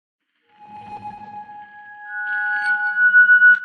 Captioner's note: logo swoosh